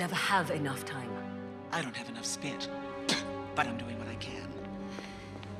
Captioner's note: spits